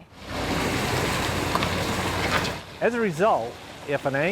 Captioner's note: loud rumbling